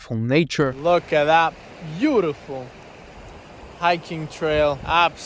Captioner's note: water splashing